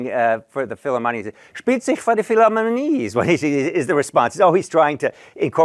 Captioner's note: non-english